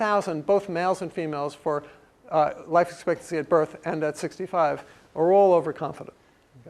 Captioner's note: none